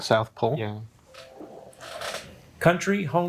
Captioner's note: bell ringing